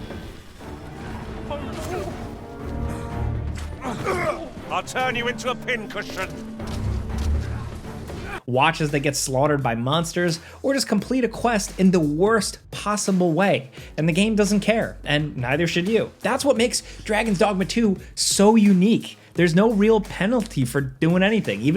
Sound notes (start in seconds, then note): 0.2 suspenseful music; 3.6 men heaving